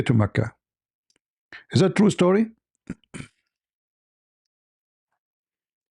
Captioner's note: clears throat